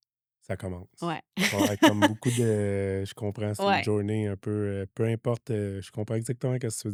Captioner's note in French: rires